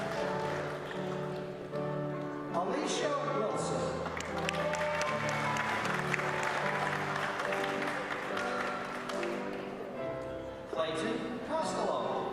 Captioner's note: applause